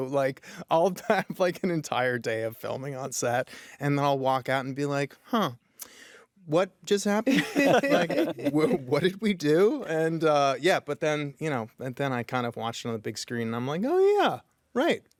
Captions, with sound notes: Like, I'll have, like, an entire day of filming on set, and then I'll walk out and be like, "Huh. what just happened?" (LAUGHTER) "What did we do?" And yeah, but then, you know... then I kind of watched it on the big screen and I'm like, "Oh yeah, right,